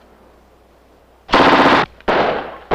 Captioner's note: machine gunfire